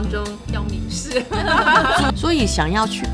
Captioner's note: laughter